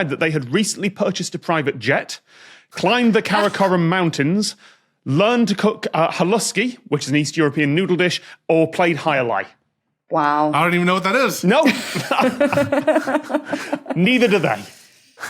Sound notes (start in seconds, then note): 11.5 group giggling